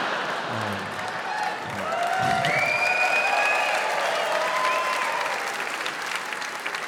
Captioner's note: audience laughs; audience cheering, applauding